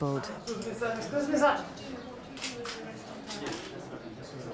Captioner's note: indistinct chatters